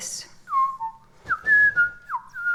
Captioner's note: bird whistling